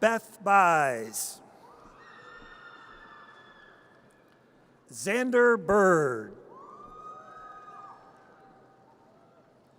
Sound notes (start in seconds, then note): 2.0 audience cheers; 6.8 audience cheers